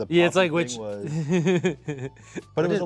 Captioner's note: giggling